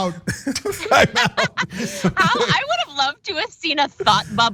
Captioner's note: laugh